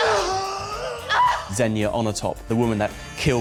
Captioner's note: bond grunts; xenia screams